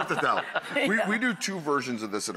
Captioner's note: laughs